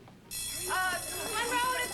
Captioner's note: bell ringing